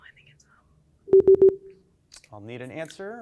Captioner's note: team whispers; time out beeps